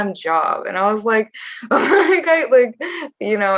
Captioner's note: chuckles